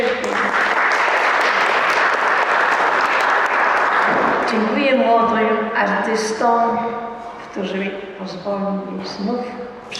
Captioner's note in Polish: Aplauz